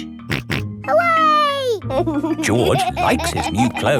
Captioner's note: snorts and laughs